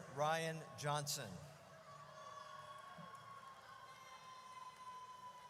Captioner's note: audience cheers